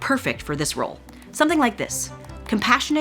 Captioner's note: keyboard clicking